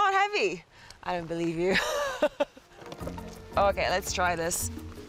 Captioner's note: laughs